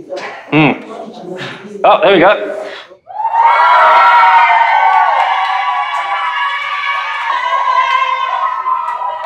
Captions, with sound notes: - Hmm, oh there we go. (teachers cheering)